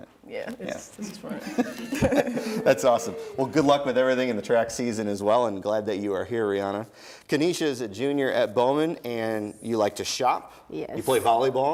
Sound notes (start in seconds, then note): 1.3 laughing